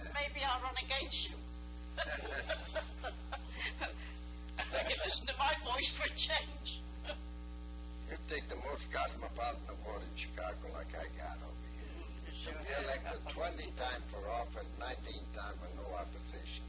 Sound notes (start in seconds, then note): 2.0 laughing together